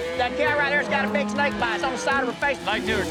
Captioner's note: whistling